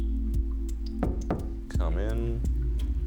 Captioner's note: knock at door